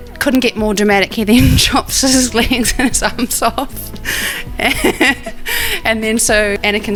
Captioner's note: laughs